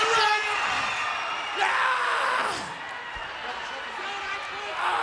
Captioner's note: groaning